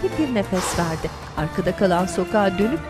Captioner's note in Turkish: Nefes sesi